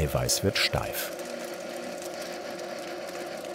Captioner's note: mixing noises